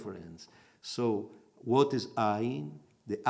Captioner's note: in Hebrew